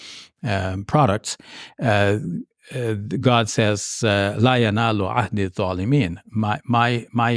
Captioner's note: speaks foreign language